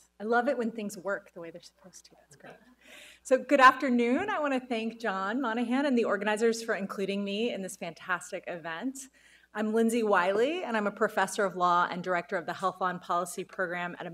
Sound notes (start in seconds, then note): 2.7 light laughter